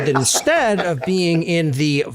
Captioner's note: laugh